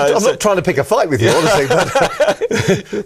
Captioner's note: laughing